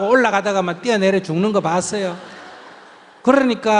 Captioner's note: audience Laughter